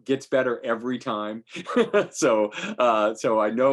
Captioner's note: laughing